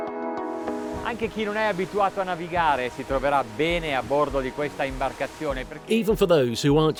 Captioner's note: speaking in foreign language